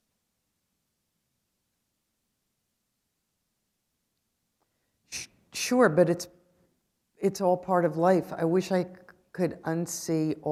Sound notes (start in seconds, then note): 1.7 pause